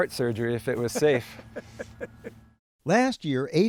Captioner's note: laughter